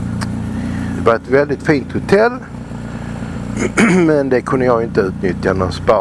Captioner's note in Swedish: harklar sig